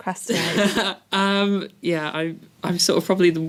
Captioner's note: laugh